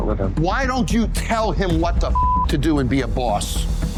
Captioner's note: beep